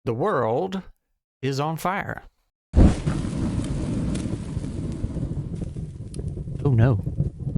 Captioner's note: sounds of squirrel burning